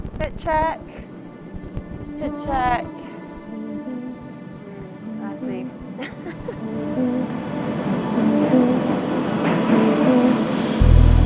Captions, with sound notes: fit check, fit check, I see. (person laughing) (gentle music)